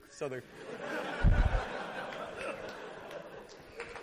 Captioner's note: laughter; clapping